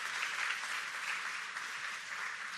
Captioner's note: applause